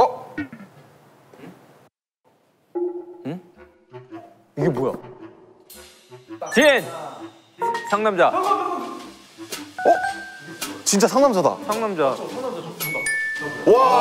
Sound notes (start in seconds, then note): 4.4 frustrated